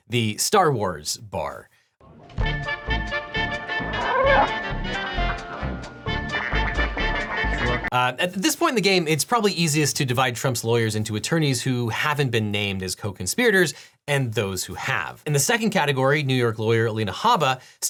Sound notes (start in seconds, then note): 3.9 warbles; 6.4 Muftak warbles